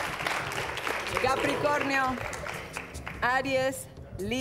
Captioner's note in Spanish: Aplausos